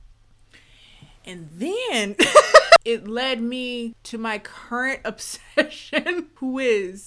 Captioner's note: laughs